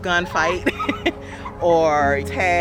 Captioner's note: laughing